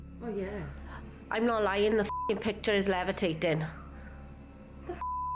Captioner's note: beep; beep